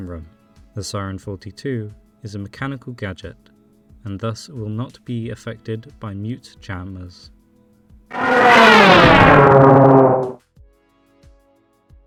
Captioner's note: SIREN-42.mp3